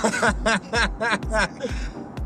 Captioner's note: laughing